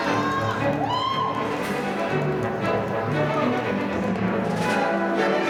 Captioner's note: audience cheering; upbeat music